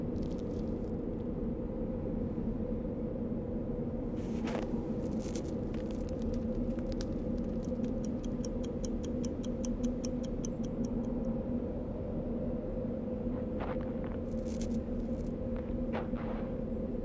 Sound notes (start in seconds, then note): 4.2 gravel crunching; 9.4 watch ticking